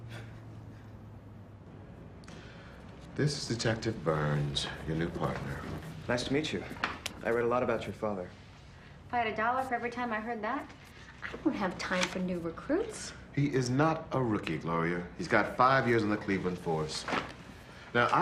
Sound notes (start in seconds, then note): none